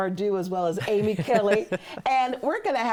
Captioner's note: laughs